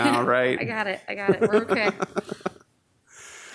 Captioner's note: laughs